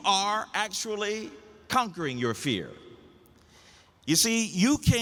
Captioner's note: none